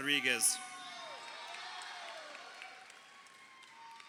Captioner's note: crowd cheering